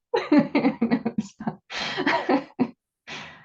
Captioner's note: laughs